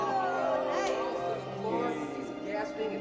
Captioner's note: group chattering